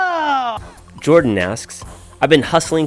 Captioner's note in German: Voice-over